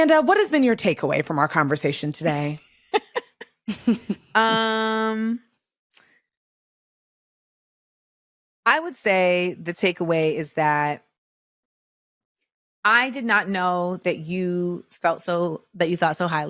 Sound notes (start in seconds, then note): 6.3 laughs